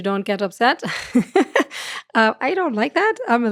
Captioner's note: laughs